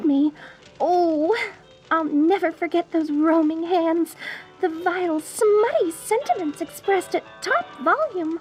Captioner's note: shudder